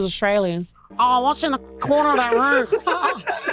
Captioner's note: thick accent; all laugh